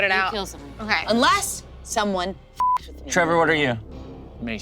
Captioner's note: beep